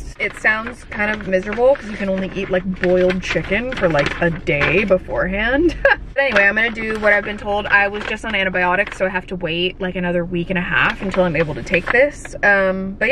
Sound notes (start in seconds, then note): 5.5 laughs